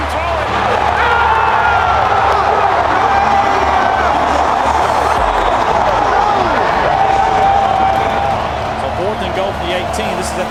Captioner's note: cheering